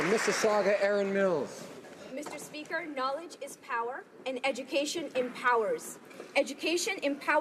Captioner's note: applause